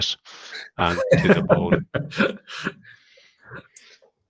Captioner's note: laughter